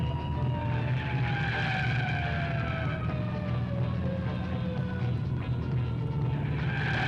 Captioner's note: siren blaring; tires screeching